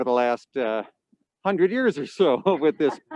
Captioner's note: both chuckling